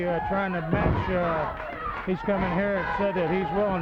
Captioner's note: body thudding